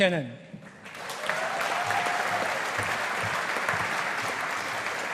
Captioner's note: audience applauding